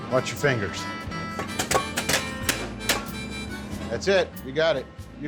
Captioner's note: chopping sound